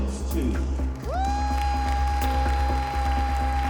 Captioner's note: whooping, applause